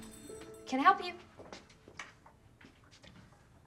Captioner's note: footstep